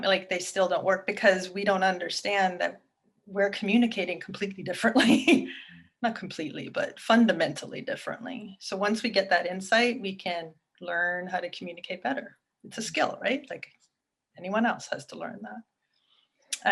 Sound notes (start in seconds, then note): 5.4 chuckles